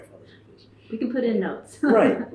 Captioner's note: laughs